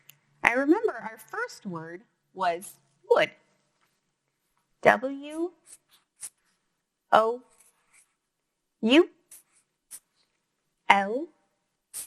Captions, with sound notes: I remember our first word was would. W-O-U-L-D. (marker squeaking)